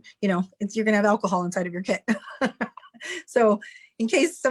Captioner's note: chuckles